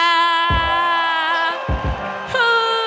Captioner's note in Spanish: Aplausos